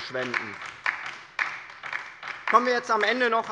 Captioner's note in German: Beifall bei der LINKEN